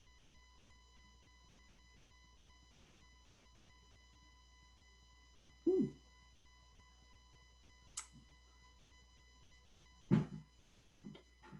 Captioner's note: silence